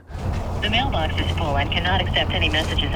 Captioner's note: automated Voice